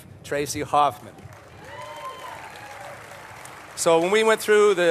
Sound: applause

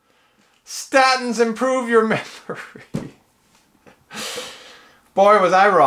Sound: laughing

